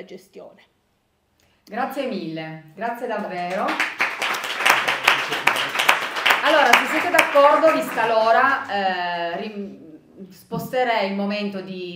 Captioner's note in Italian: Applauso